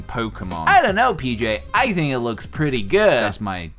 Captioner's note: Stimpy voice; normal voice